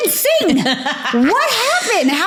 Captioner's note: laughing